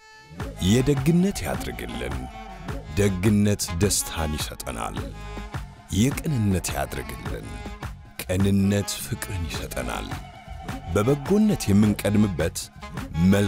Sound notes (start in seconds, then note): none